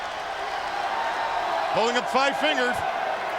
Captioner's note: crowd cheering